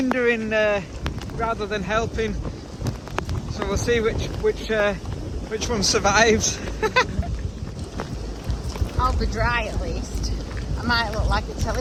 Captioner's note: laughing